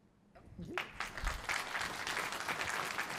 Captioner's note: applause